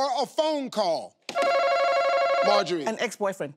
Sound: tapping and ringing

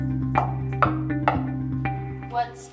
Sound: girl knocks

